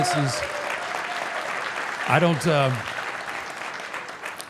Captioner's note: audience applauding